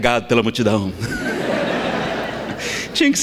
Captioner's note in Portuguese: Gargalhadas